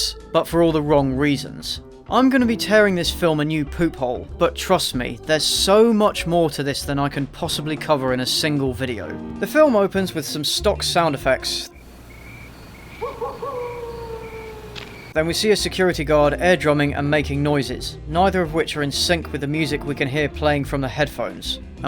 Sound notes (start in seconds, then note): 11.7 stock cricket and wolf noises